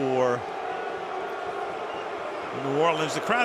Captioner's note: booing